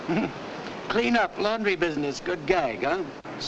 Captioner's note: chuckles